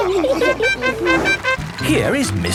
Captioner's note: all laughing; horn tooting